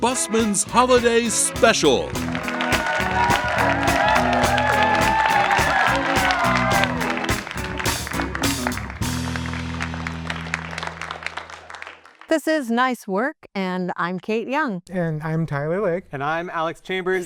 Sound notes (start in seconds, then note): 3.8 applause